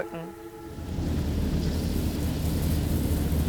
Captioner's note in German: Maschinengeräusch